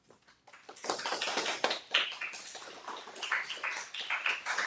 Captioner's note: audience clapping